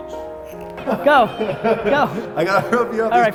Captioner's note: laughing